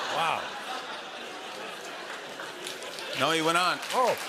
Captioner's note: laughter